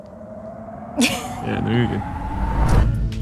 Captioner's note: laughing; electronic music